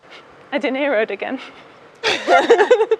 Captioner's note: laughing